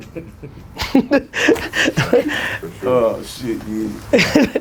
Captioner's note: laughs